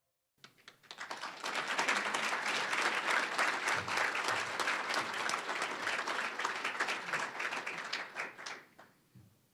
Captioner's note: applause